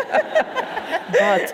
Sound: audience laughing

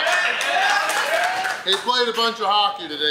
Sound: crowd claps and cheers

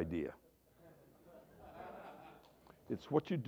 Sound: laughter

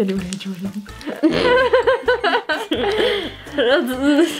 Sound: laughing

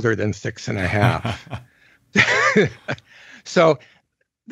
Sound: both chuckle

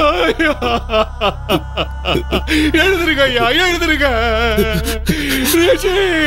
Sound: wailing

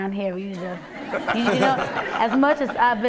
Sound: laughter

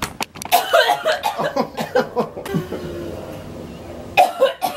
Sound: coughing continues

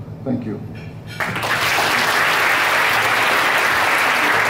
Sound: crowd claps

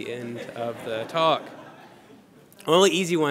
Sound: laughter

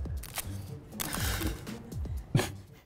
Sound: types louder

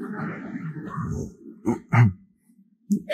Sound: laughter

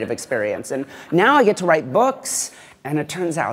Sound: laughter

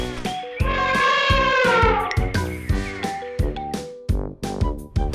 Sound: elephant trumpets

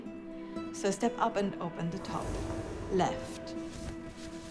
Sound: drawer opening

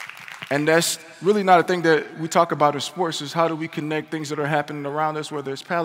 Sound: applause

